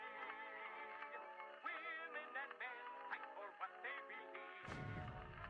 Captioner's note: distant explosions